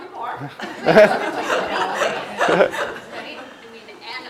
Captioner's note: laugh